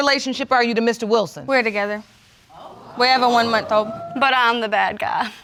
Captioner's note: audience exclaiming